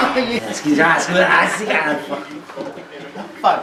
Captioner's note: growls